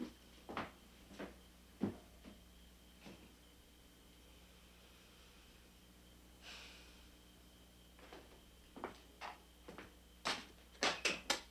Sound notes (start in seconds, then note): 6.6 Ben sighing